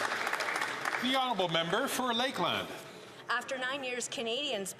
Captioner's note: some Applause